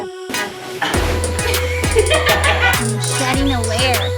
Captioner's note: upbeat music; laughing